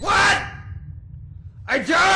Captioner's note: screaming